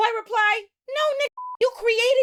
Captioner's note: beep